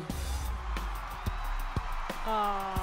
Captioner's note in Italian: Applauso